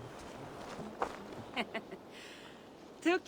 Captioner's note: laughs